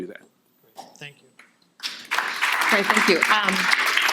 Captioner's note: audience applauding